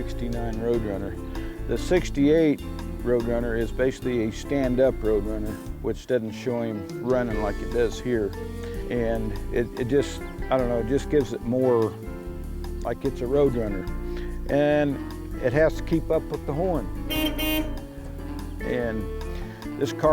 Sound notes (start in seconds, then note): 17.1 Road Runner “Meep meep” sound